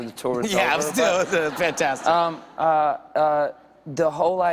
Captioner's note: laughter